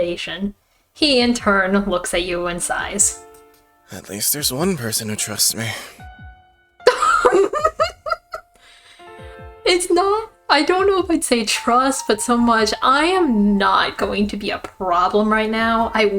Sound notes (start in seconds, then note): 6.9 barely contained laughter